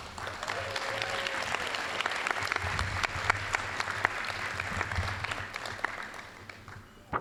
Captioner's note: applause